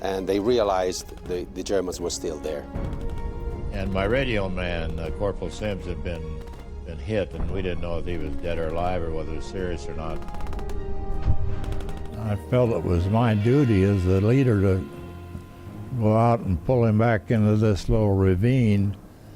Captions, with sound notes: and they realized the Germans were still there. - And my radio man, Corporal Sims, had been hit, and we didn't know if he was dead or alive or whether he was serious or not. (dramatic music) (gunfire popping) I felt it was my duty as a leader to go out and pull him back into this little ravine